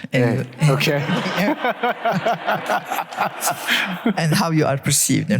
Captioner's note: laughs